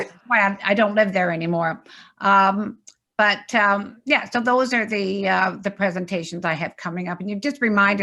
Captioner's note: laughs